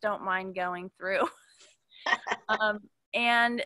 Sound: participants laughing

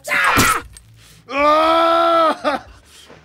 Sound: shouts

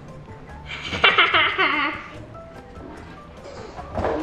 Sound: laughs

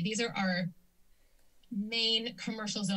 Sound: silence

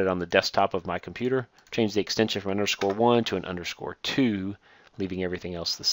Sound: click

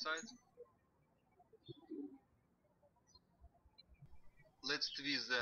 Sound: birds chirping

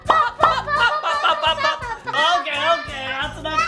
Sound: laughing

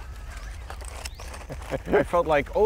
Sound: laughing

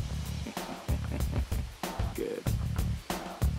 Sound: chuckles

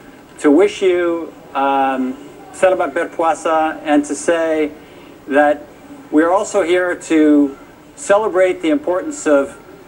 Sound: non-english

